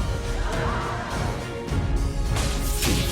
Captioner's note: students gasping